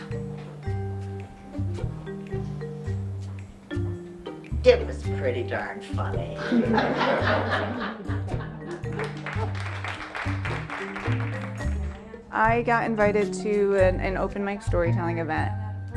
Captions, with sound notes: (upbeat music) "It was pretty darn funny." (audience laughs and claps) - I got invited to an an open mic storytelling event.